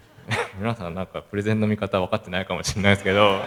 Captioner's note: laughs